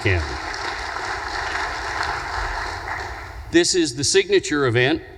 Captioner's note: audience applause